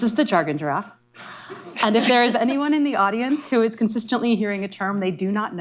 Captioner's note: laughter